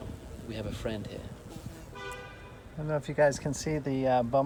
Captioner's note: bee buzzes